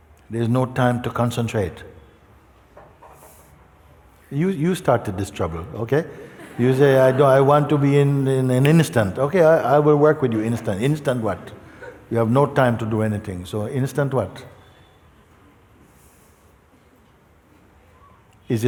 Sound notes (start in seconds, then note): 6.1 laughter